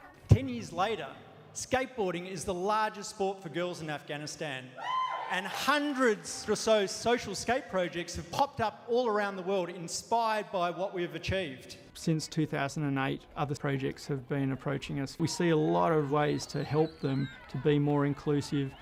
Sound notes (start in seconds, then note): 4.7 cheering